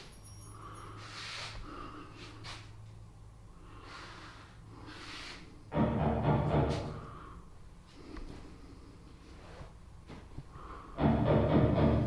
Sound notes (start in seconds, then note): 5.7 loud thuds in the distance